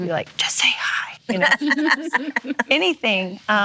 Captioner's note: laughing